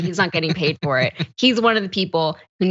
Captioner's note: laugh